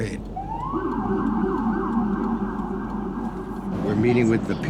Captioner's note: police siren ringing